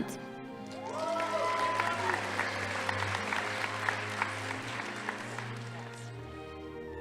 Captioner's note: audience applauding; crowd cheering